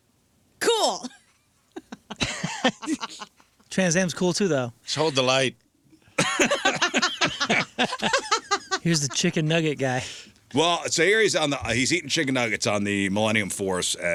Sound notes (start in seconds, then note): 6.1 laughter